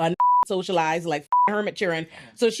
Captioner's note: beep